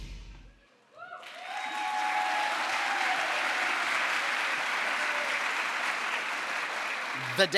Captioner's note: crowd applause